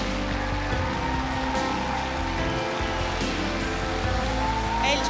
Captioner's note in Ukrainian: оплески